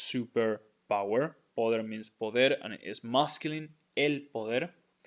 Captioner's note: speaking in Spanish